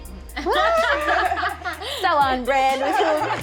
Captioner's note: laughs